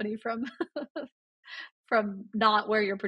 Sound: laughs

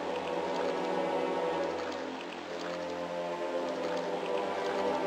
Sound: music gets louder; noises of water

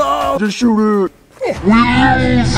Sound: grunt

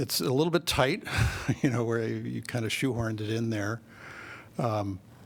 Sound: laughter

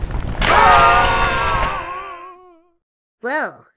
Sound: Team 5 screams

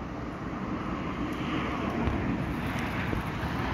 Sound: car sounds

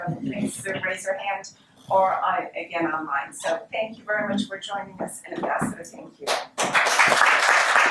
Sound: applause

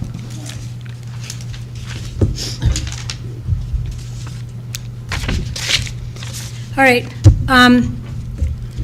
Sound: papers shuffling

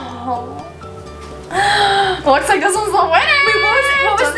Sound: gasp

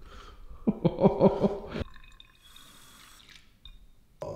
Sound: cameraman laughing

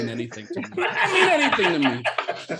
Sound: all laugh

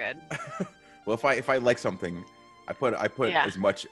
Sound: laugh

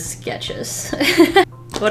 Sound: laughs

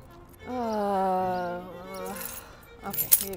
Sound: mom groaning

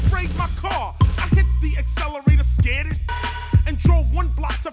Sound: beep

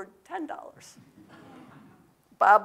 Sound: audience laughs

